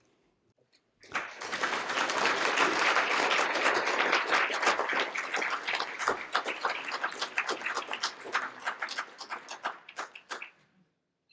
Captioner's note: applause